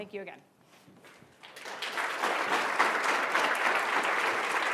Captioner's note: applause